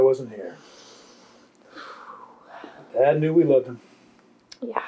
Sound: sighs

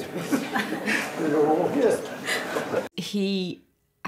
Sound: many Laughing; laughs

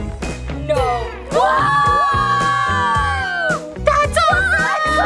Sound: all screaming

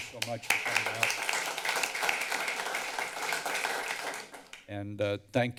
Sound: applause

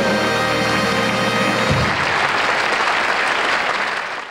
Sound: audience applauding

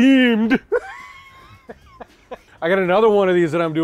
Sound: laughs

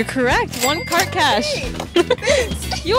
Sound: ding sound

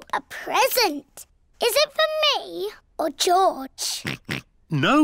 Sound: oinks

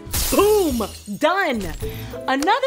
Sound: glass shattering

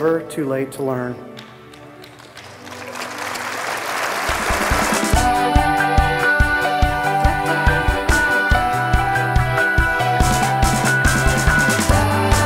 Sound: clapping

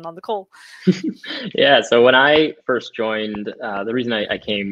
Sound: chuckles

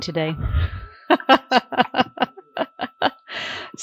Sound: laughs

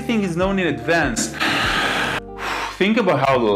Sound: sighs

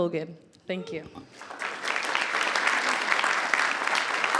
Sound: audience clapping

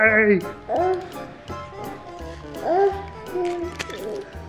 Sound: child coos

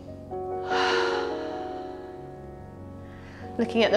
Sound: exhales

